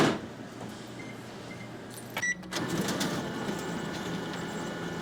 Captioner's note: copier door closing; copier beeping